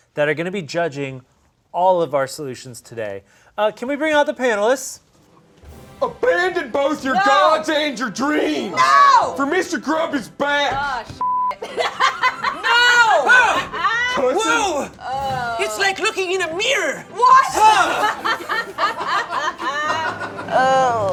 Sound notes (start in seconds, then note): 11.2 beep; 17.6 laughing